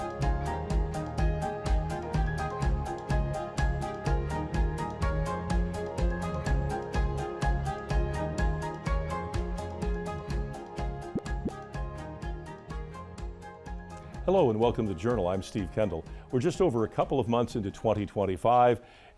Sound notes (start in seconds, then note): 11.0 graphic pops; 12.2 upbeat music continues